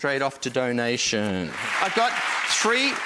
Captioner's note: applause